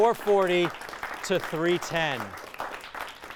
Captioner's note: applause